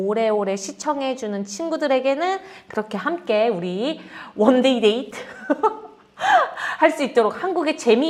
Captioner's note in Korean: 웃음